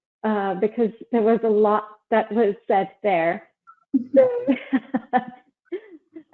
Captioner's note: laughs